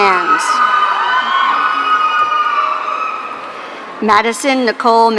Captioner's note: audience cheering